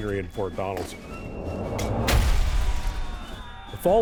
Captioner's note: air whooshing; explosion booming